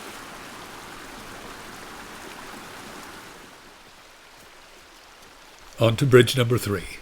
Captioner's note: water babbling